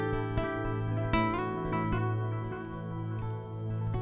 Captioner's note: none